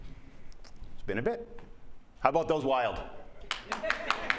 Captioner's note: applause